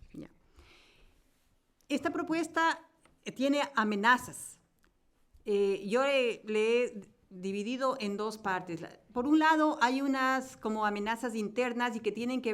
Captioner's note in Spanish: Español